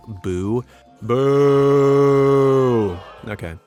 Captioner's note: crowd of boos